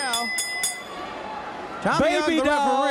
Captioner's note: bell ringing